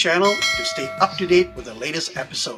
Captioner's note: graphic ringing